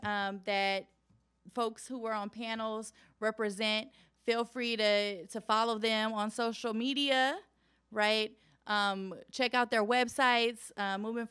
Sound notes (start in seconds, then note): none